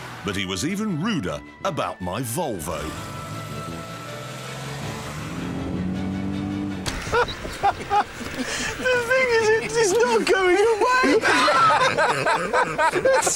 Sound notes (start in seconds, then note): 6.9 richard laughs; 10.4 all laugh